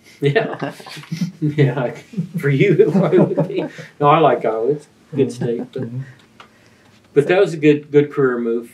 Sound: laughter

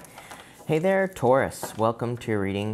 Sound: cards shuffling

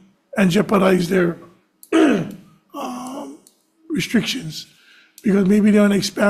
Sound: coughs

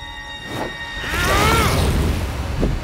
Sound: grunting

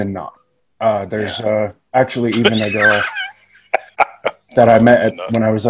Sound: laughing

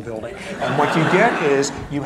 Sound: laughter

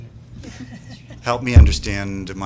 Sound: laughter

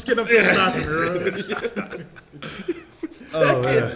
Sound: laugh

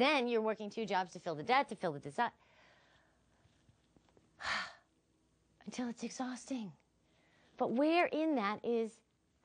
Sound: sighs

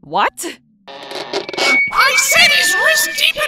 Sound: megaphone whines

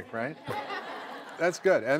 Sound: laughter

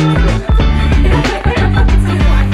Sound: light laughter

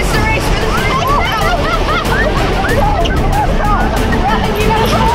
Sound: laughing; yelling; dramatic music

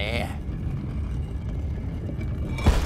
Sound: scraping

